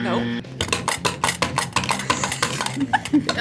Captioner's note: game clicks; laughs